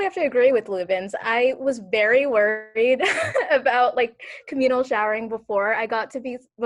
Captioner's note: laughs